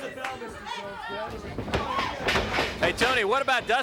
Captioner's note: footsteps plodding